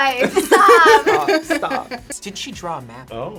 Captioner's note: laughs